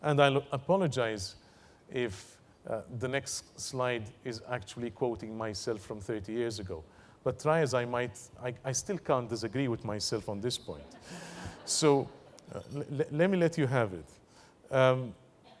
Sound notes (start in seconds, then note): 10.8 laugh